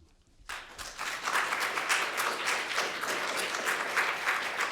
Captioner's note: audience applauding